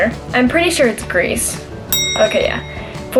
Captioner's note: bell ring